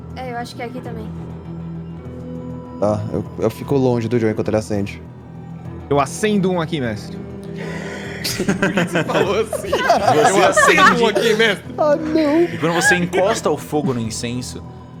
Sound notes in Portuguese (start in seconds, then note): 7.6 risada